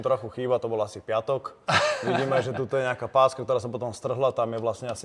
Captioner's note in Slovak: smiech